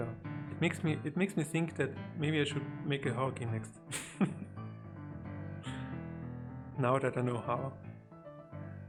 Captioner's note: laughs